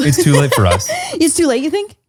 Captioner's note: laughs